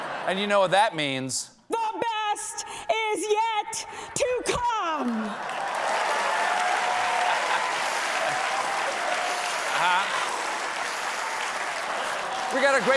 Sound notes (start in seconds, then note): 4.8 laughter; 4.9 applause